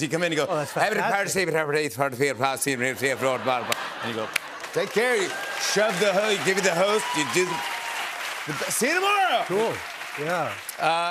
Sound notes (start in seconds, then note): 4.7 cheers and applause